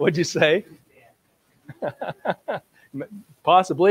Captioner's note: laughs